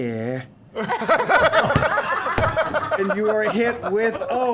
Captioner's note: laughter